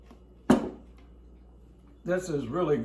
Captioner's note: bowl clutters